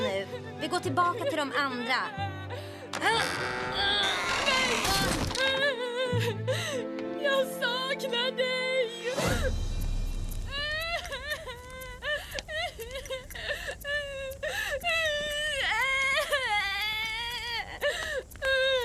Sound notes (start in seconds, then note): 2.9 wood creaks; 10.1 sadie wailing